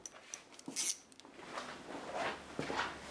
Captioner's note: whirring sound